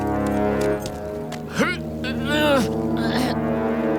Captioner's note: grunting